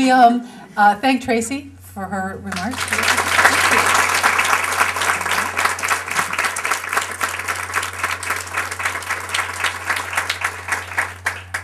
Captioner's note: applause